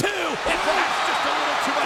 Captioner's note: crowd cheering